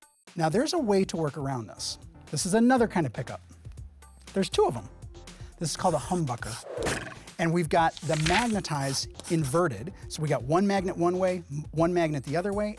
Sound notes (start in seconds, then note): 5.7 pencil scratching; 6.0 arrow twanging